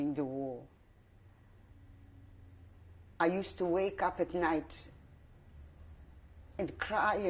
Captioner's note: pauses for 3 seconds